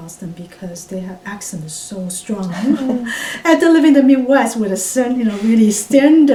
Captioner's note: laugh